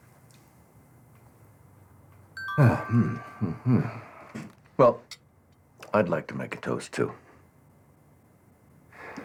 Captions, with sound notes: (Cell phone chimes) WELL I'D LIKE TO MAKE A TOAST TOO.